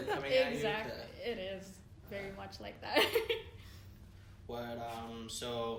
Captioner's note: laughs